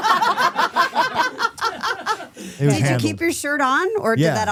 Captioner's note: laughing